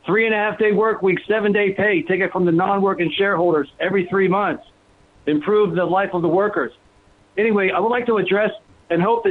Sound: speaking in foreign language

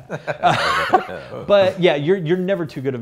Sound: laughs

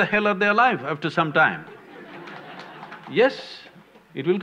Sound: laugher; few applaud

